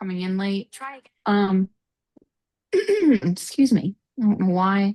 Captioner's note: clearing throat